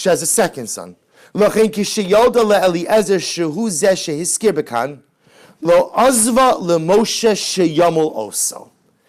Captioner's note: Hebrew